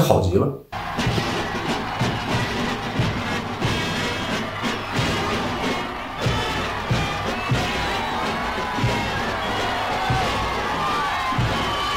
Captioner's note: cheers